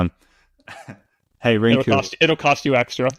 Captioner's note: laughs